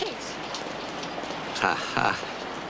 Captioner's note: chuckles